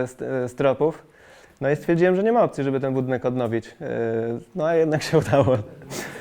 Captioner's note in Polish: śmiech